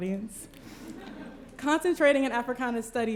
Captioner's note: laughter